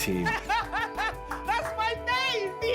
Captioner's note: joyous laughter